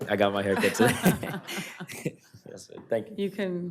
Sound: laughing

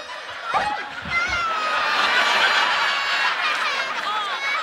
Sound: crying

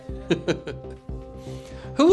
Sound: laughing

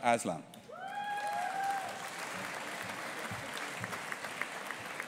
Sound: audience applauding

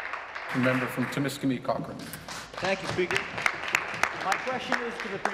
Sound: applause

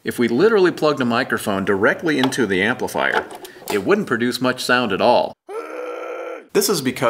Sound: muffled scream

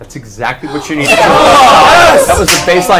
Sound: all cheer

